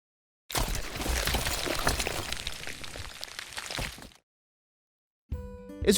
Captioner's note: paper Rustling